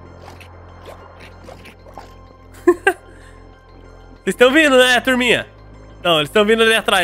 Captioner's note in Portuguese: risos